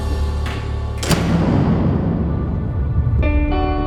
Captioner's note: prison door slams